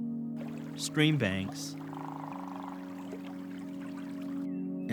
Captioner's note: flowing water